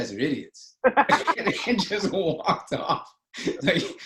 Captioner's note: laughter